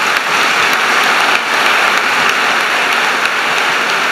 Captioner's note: applause